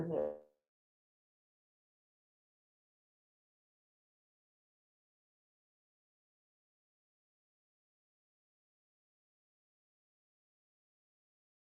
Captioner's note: frozen, no sound